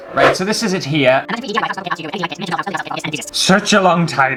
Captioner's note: fast Forward Talking